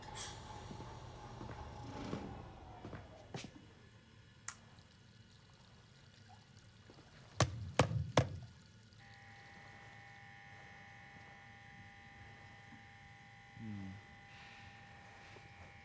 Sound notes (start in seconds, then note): 6.8 water splashing; 9.0 light buzzing